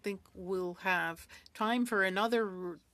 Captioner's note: speaking French